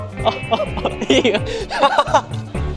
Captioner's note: just laughing